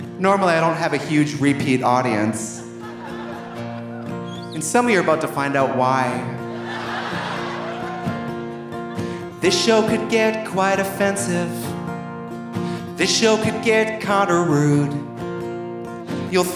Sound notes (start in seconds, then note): 2.4 audience laughing softly; 5.2 audience laughing